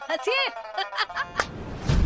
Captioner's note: laughing